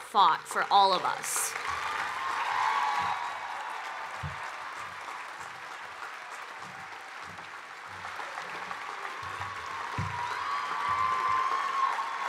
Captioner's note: cheering and Applause